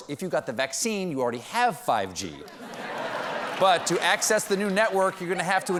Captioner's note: laughter